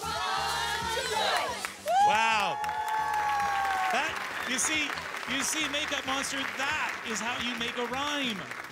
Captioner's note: chanting; cheering and Applause